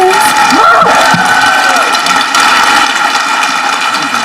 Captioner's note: audience clapping